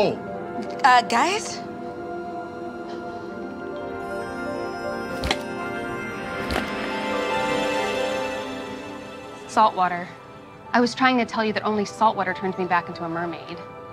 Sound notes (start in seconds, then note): 2.7 bright music; 5.0 tail thudding